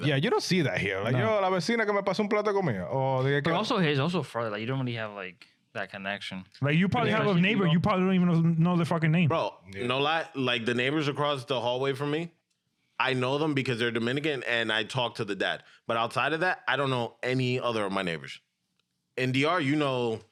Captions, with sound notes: Yeah, you don't see that here. (Speaking In Foreign Language) But also he's also from, you don't really have that connection. But you probably have a neighbor. You probably don't even know the fucking name. Bro, you know a lot? Like the neighbors across the hallway from me, I know them because they're Dominican and I talked to the dad. But outside of that, I don't know any other of my neighbors. In DR, you know,